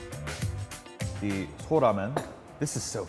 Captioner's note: speaking foreign language